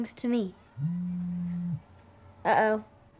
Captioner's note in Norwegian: telefonen vibrerer